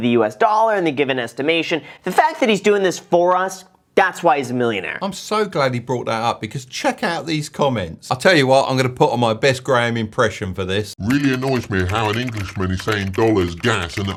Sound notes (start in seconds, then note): 10.3 speaks in deep voice